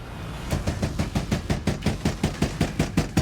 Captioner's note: pounding incessantly